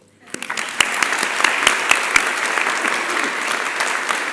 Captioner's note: applause